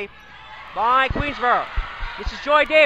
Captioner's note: crowd cheers